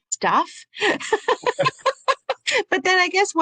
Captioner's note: laughs